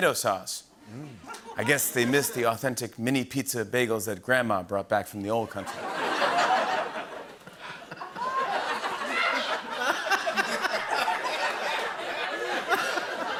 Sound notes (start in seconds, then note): 5.6 laughter; 8.4 fresh laughter